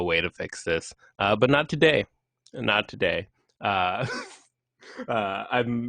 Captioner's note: chuckles